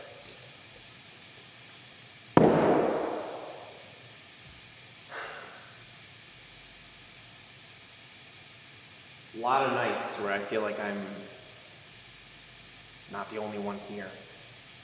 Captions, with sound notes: (bottle thuds) (Jacob sighs) A lot of nights where I feel like I'm not the only one here.